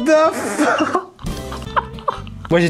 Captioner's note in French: rires